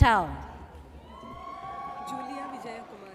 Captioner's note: audience cheers